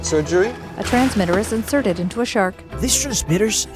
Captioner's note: water splashing